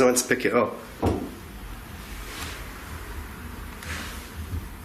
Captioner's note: thumping